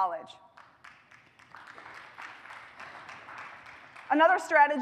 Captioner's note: applause